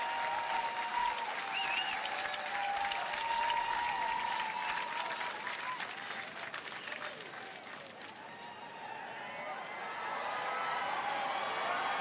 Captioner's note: applause